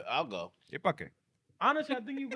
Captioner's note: speaking In Foreign Language